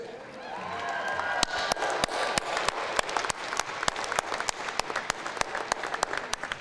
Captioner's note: cheers, applause